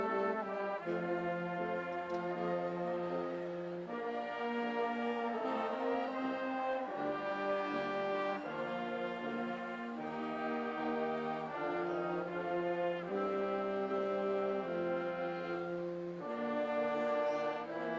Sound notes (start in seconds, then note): none